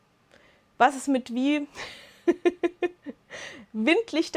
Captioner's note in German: Lachen